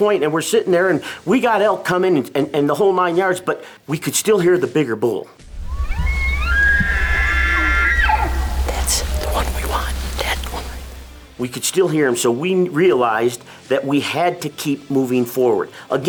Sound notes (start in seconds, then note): 5.5 bull bugling